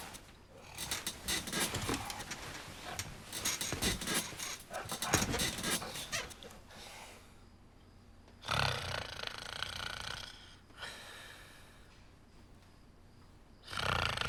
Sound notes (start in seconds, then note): 8.4 snoring noisily